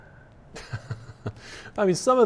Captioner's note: laughs